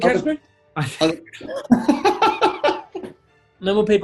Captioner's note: giggling